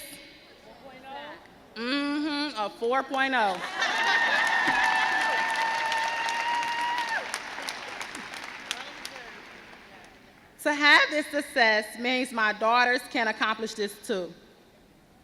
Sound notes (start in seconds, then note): 3.6 crowd cheers